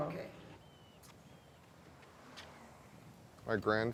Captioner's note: birds chirping